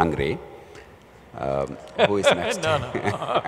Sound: laughs

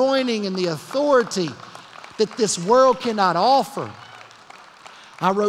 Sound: applause

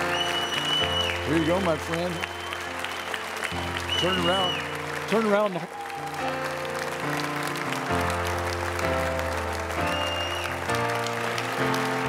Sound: audience continues to cheer

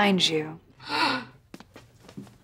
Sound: gasping

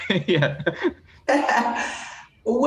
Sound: both laugh

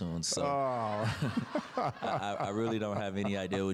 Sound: laughs

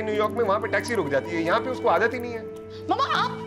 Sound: phone ringing

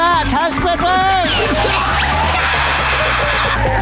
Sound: screaming; laughing

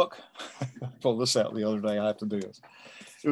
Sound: chuckles

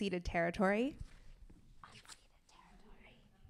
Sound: whispers

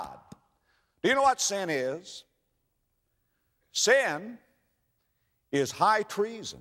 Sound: tap, tap

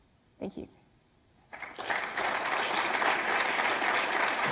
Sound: applause

